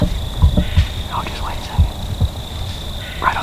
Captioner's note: whispering